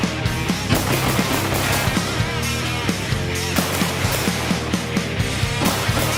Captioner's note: upbeat music; gun booming